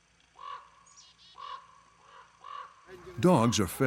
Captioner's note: crows cawing